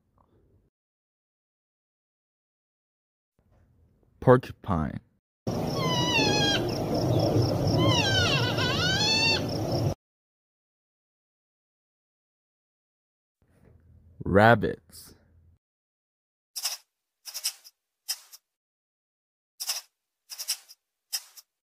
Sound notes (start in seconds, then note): 5.3 porcupine squeaking; 16.2 rabbits sniffing